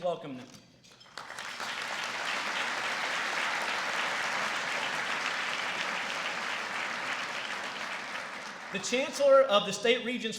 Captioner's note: applause